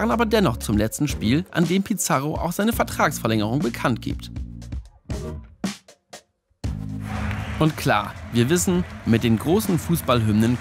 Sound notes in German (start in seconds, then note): 7.0 Fangesänge, Jubel